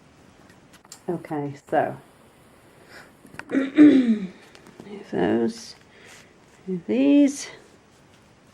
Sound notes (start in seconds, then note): 3.5 clears throat